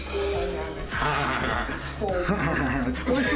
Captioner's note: panic gibberish